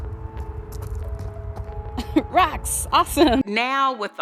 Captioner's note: laughs